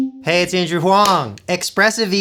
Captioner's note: star clap